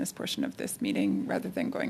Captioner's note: speaking French